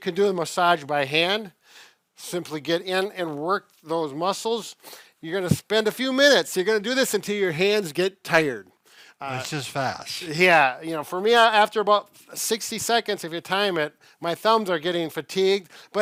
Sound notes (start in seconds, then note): none